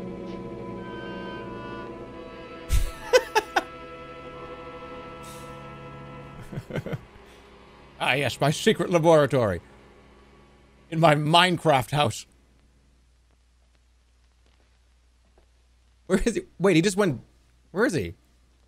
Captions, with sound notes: [laughs] [chuckles] 'Ah yes, my secret laboratory.' 'In my Minecraft house.' Where is he—? Wait, he just went... Where is he?